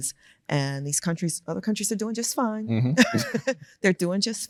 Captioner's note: laughs